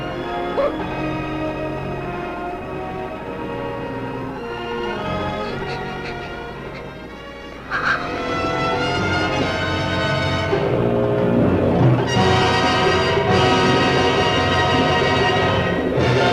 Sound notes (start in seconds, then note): 0.0 Meg crying; 0.3 Meg gasping; 5.0 Sandy crying; 8.5 dramatic theatrical music